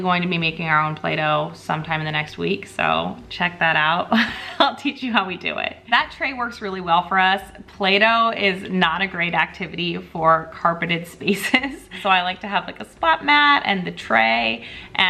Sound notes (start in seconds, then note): 4.1 chuckling